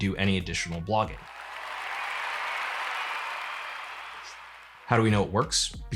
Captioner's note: cheering and applause